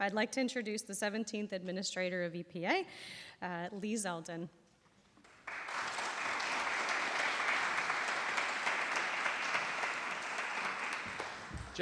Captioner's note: applause